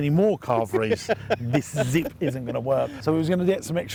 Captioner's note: laughing